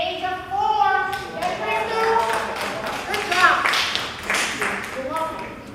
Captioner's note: applause